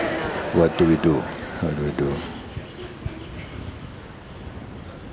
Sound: laughter

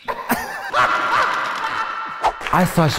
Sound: laugh echoes

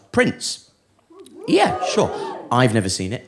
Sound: audience whoops

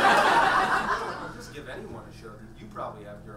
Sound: audience laughs

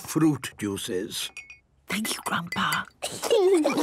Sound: Granny whispering; children giggling

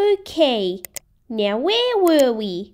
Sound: click!

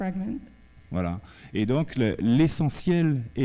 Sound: speaking french

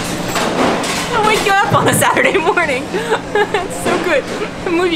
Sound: laughs; laughs

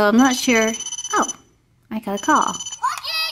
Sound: ringing

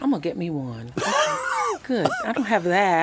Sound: laughs

